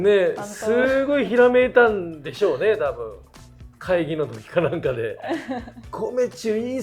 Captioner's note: laughs